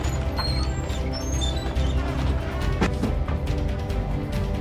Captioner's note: door squeaks